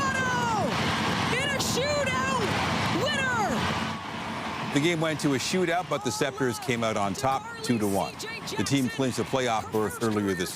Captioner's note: cheering